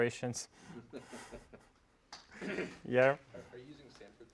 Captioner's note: laugh